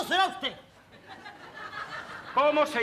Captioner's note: laughs